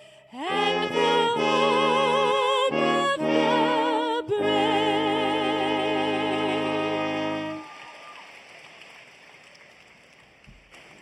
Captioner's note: applause